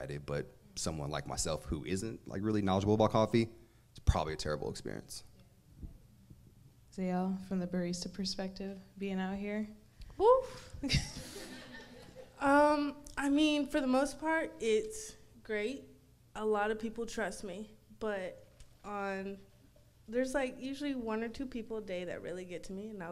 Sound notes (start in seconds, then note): 10.8 laughs